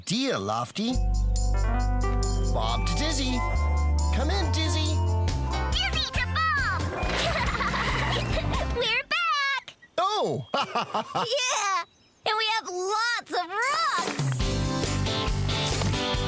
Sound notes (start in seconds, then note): 7.1 giggles; 10.5 laughing